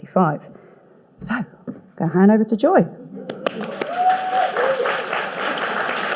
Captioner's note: audience cheering